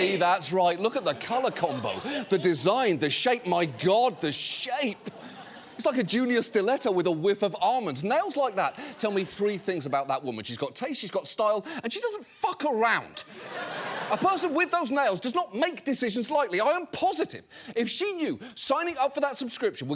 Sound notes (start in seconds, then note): 13.2 audience laughing